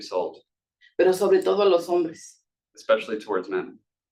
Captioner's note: speaking Spanish